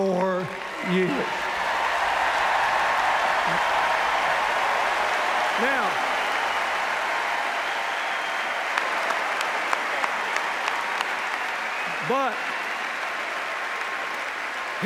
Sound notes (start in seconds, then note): 1.2 cheers, applause; 13.1 cheers, applause